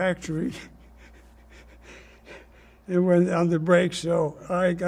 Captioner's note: laughing